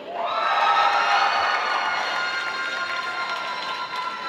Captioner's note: applause